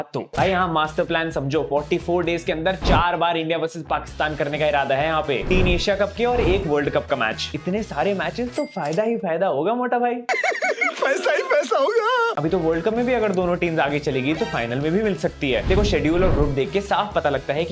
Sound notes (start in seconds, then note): 10.3 laughing